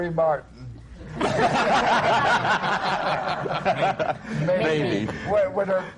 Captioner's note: laughter